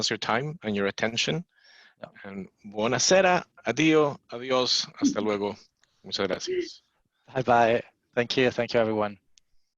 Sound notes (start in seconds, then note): 2.7 non-english speech